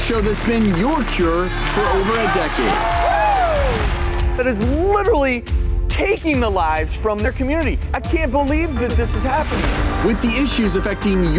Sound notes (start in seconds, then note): 2.6 crowd screams